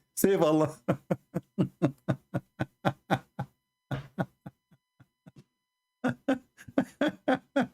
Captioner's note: Ketawa